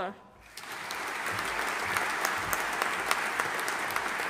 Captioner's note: audience applauding